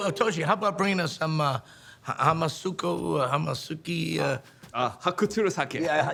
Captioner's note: attempting to speak in foreign language; speaking in foreign language